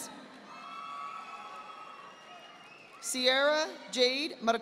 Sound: audience applauding

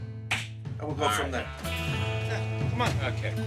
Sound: clapping

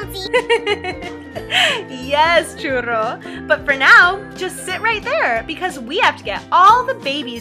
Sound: laughs

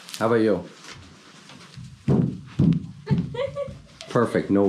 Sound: jumping sounds

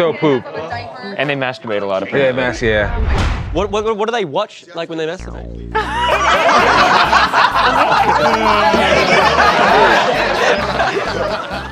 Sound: laughter

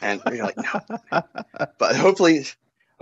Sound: laughs

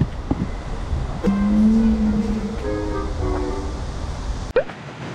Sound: vroom

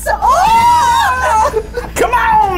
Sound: both screaming

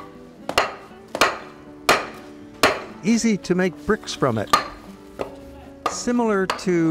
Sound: hammers pounding

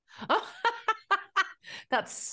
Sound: laughs

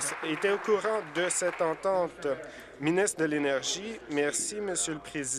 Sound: applause

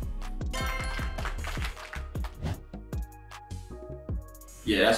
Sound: applause sound effect plays

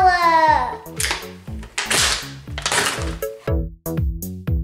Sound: package ripping; upbeat music

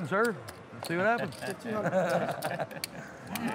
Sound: laughs

